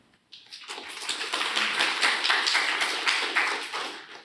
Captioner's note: applause